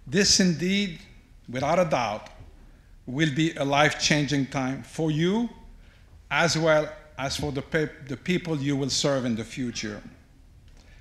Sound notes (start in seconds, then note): none